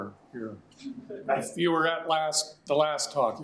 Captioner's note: audience chuckling